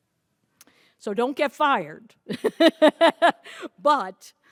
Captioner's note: laughs